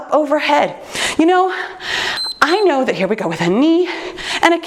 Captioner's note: timer beeps